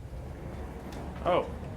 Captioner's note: doors sliding